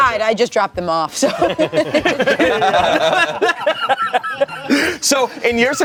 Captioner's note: everyone laughs